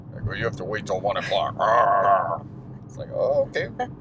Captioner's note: growling